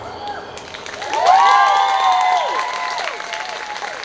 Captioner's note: audience cheering